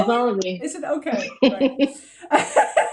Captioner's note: laughs